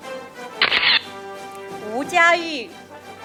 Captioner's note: camera shatters; audience applauding